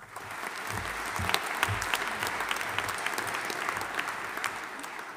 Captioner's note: audience applauding